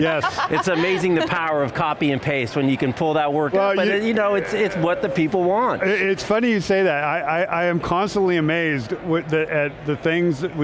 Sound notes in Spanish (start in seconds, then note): 0.0 risas